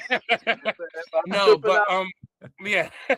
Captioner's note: laughing